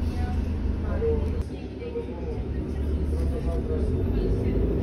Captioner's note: bus noises and Spanish conversations